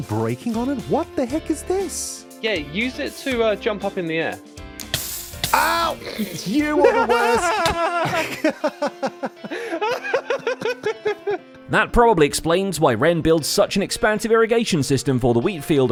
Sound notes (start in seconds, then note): 4.5 click; 4.9 damage noises; 5.5 laughs; 7.7 both laugh